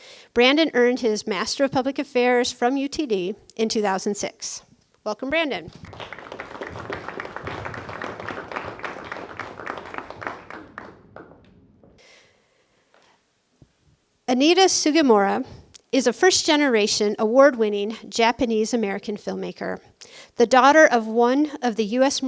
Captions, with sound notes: Brandon earned his Master of Public Affairs from UTD in 2006. Welcome, Brandon. (applause) Anita Sugimura is a first generation, award winning Japanese-American filmmaker, the daughter of one of the U.S.